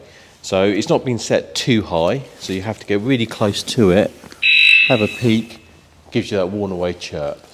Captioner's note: beep